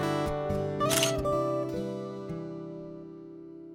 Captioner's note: camera shutter sound